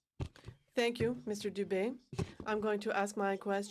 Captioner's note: speaking in french